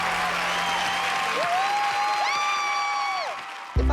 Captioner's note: applause; cheering